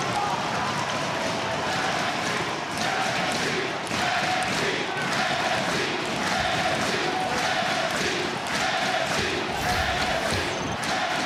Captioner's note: crowd cheering